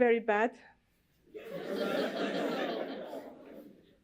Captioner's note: laughter